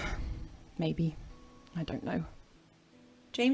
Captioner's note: Regulus sighs